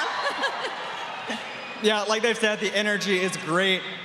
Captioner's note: cheering